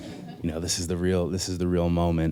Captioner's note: laughter